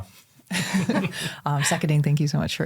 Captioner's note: all chuckle